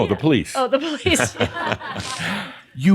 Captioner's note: she chuckles and some laughter